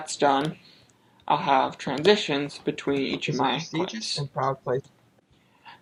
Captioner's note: narration plays in background